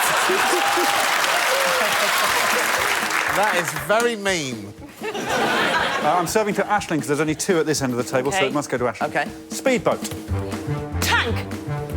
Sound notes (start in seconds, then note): 4.8 laughter